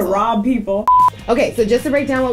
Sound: beeps

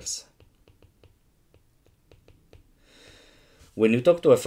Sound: screen tapping

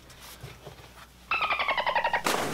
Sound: dolphin sound; splash

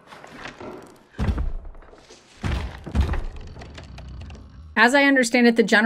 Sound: clock ticking; footsteps thuds

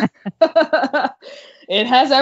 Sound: laughing

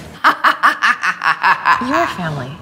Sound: sinister laugh

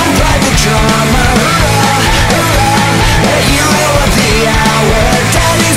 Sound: bang bang

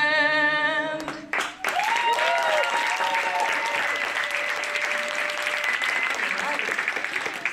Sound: applause

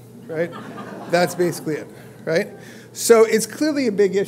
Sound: laugh

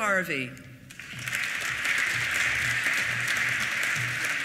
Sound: applause

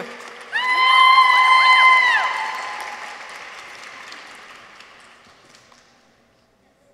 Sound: audience applauds; people cheer

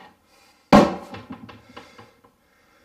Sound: thud

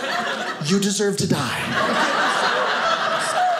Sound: audience laughing

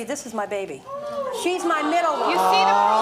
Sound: gasping

